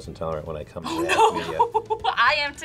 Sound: laughs

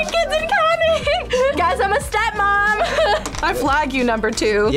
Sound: laughs

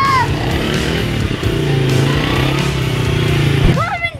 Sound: engine revs

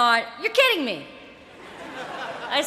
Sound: laughter

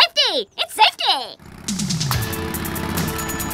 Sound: rumbles like a motorcycle

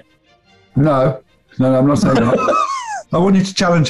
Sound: laughing

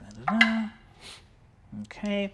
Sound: dice tap table; hums

